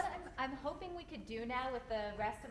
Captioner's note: voiceover